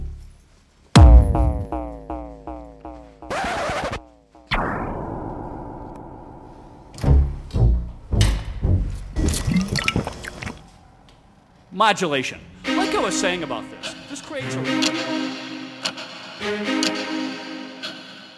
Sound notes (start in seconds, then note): 3.2 record Scratch; 9.2 glug